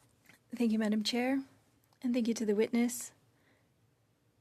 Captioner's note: speaking French